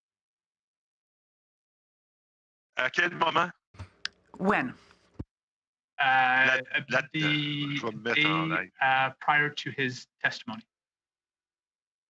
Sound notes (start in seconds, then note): 8.3 speaking French